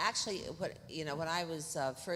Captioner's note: none